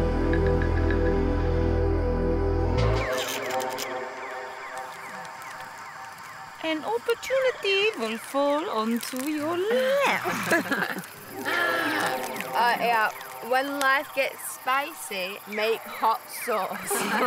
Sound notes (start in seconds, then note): 3.4 cookie cracking; 9.6 laughs; 16.6 laughs